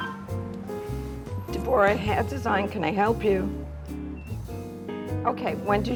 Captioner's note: on the telephone